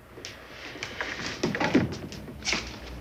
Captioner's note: chair clatters